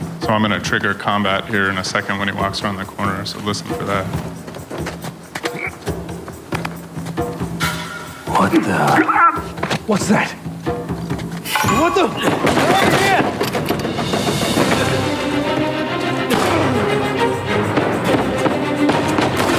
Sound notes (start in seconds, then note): 5.5 soft drums and percussion; 12.0 guns fire